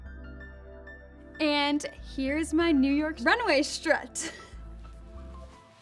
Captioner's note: upbeat music; chuckling; upbeat music